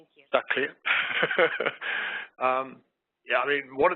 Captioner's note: laughing